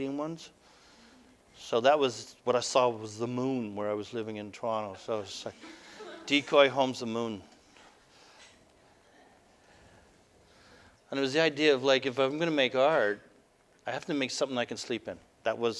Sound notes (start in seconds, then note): 5.6 audience: Laughter